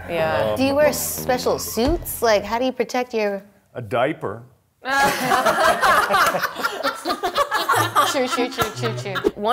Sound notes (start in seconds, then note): 4.9 laughing